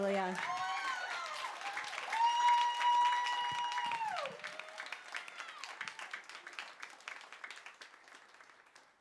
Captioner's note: applause